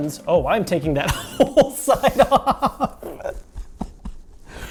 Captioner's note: laughing